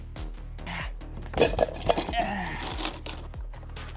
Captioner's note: heavy breathing